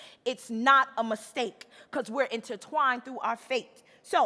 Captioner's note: none